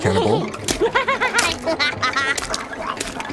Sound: laughter

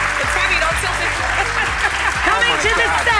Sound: laughs

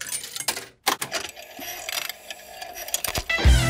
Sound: clicks, whirring; heavy metal music plays

